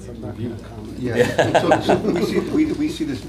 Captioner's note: laughter